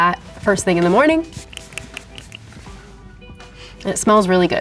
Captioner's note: spray spritzes